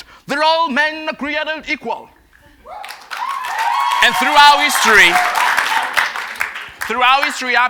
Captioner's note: cheers and Applause